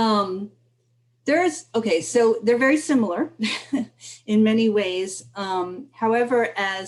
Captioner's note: laughter